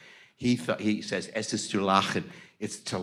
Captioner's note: speaks in foreign language